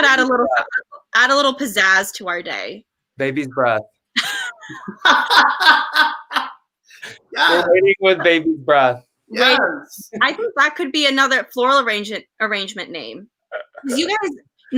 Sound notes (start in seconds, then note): 4.5 everyone laughs